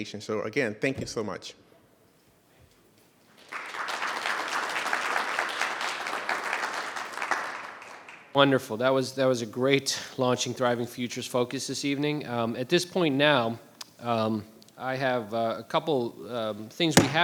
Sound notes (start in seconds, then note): 3.3 audience applauds